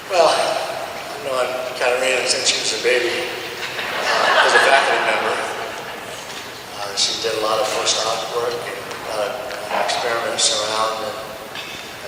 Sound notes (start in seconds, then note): 3.3 audience laughs